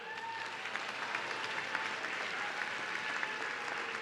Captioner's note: audience cheering